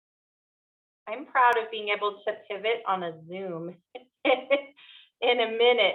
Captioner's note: chuckles